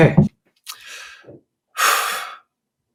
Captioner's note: inhales, sighs